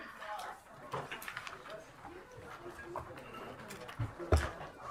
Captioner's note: crowd chattering